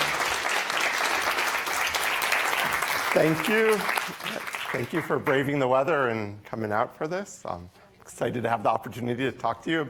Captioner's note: applause